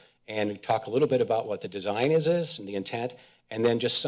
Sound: none

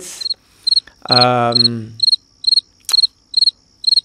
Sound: crickets chirp

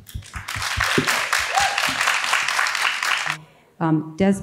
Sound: audience cheers and applauds

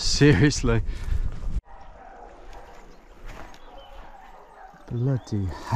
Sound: dogs still barking

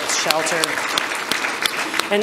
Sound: audience applause

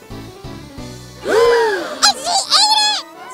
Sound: children gasping

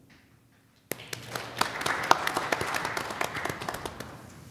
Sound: applause

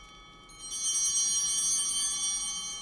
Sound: bell ringing

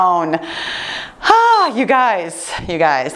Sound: sighs

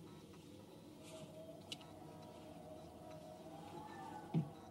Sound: wind Whistling

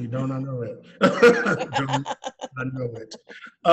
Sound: laughing

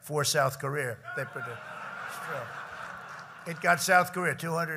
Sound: laughter

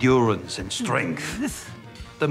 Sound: grunts

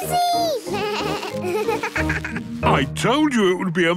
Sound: bleating, laughing

